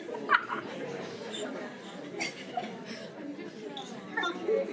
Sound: chattering continues

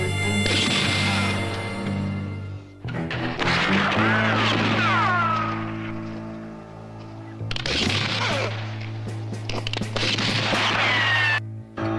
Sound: gunshot

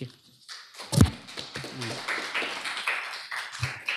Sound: applause

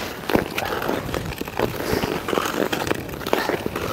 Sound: skate blades scrape ice

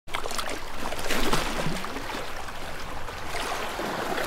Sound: splashing water

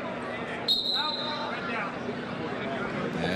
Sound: whistle

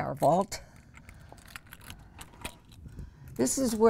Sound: key rattling

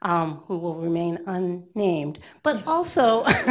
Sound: laughing; laughs

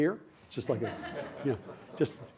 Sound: laughter

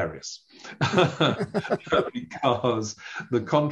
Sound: laughing

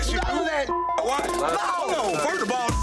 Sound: beep

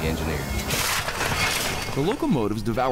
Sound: coal clanging against the shovel

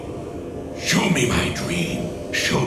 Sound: none

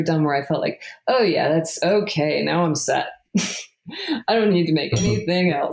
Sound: laughs

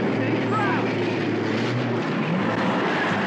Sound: car roaring

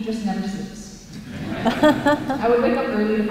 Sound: laughter

